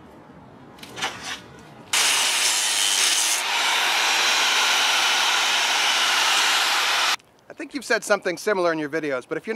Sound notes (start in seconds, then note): 2.1 grinding